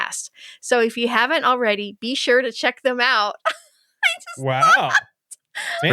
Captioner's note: laughing